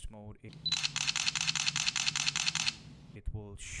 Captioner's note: camera Shutter Sound